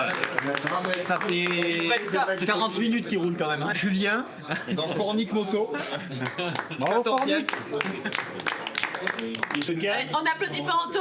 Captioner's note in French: applaudissements